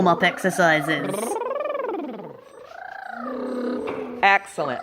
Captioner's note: sounds of humming through vibrating lips